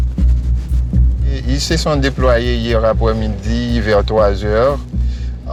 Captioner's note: French spoken audio